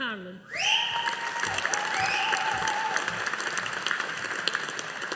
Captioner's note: audience applauding